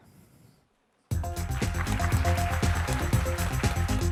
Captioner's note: applause